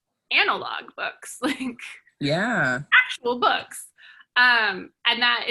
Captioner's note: laughs